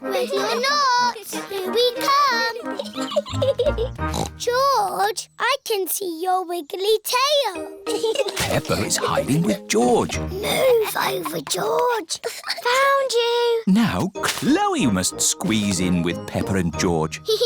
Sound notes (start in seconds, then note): 3.0 giggles; 3.9 snorts; 10.8 whispers